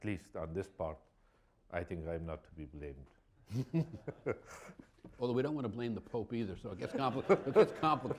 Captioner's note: laughter